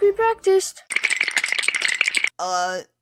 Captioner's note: cartoon sweating noise